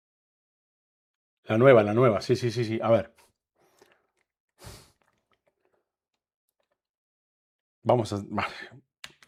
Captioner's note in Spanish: resoplido